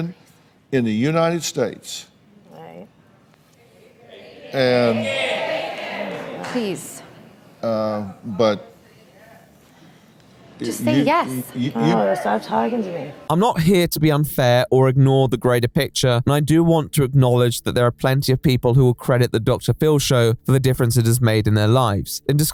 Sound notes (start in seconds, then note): 4.1 audience cheering to take it